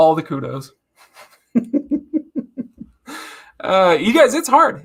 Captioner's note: giggles